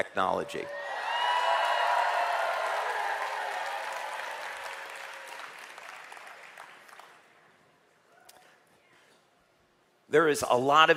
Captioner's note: เสียงปรบมือ